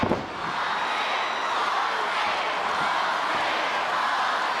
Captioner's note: audience chanting; audience cheers